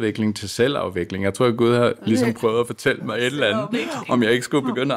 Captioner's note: laughs